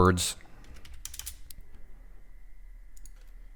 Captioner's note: typing